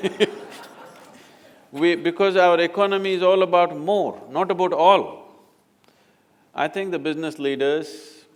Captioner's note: laughter